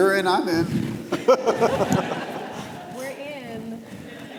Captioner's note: audience laughs